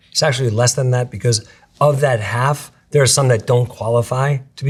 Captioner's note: none